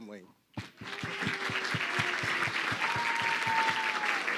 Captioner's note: crowd clapping